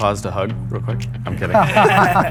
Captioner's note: laughter